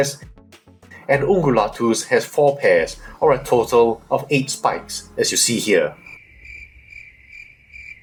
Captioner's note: crickets sound